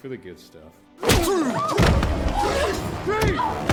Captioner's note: tense music; smacking